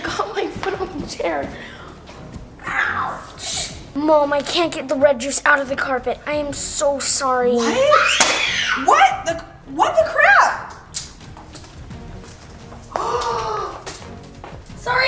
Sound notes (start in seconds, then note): 7.6 screaming; 12.9 mom gasping